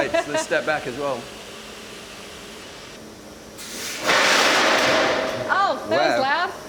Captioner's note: machinery running, loud bang